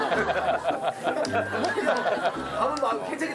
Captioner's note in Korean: 하.하.핫